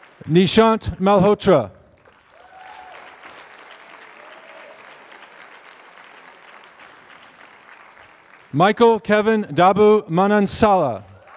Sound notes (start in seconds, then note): 2.1 applause; 10.7 applause